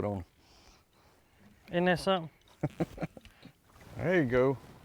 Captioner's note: chuckles